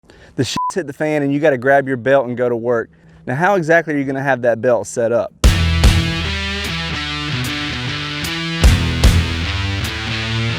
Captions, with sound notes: the (beep)s hit the fan and you got to grab your belt and go to work